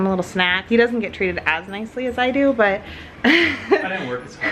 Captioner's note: laughs